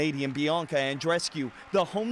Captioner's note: cheers and Applause